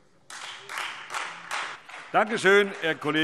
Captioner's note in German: Beifall Freie Demokraten und vereinzelt SPD